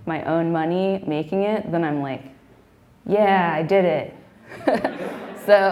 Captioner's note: laughing